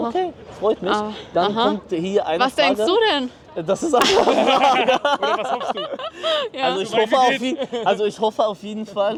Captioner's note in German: gelächter